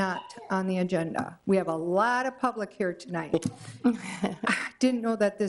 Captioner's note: chuckles